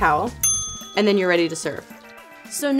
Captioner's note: ding